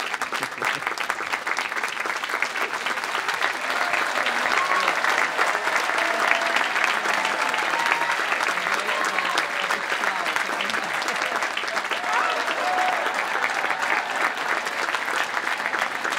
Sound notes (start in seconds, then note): 8.7 people chattering